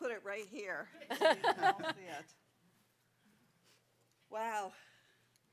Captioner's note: laughter